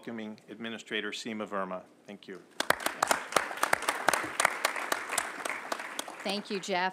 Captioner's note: applause